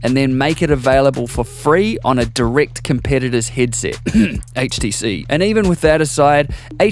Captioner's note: cough